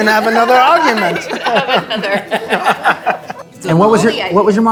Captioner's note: everyone chuckling